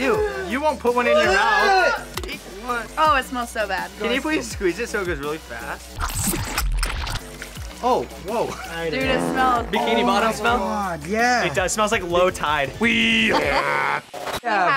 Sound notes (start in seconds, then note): 6.0 syrup gushing; 9.0 farting; 13.1 imitating boat horn